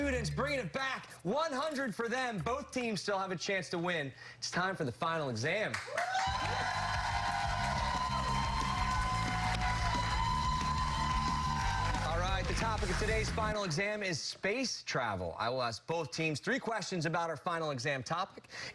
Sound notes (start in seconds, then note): 14.1 cheers and applause